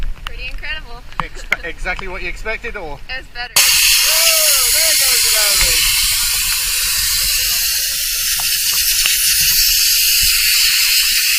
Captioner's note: scuba Cylinder releases air loudly